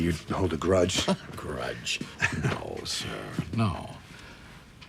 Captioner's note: chuckles